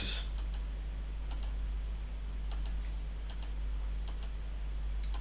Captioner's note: clicking on screen